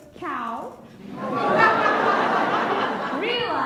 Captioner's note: laughs